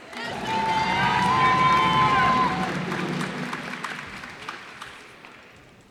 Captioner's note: cheers and applause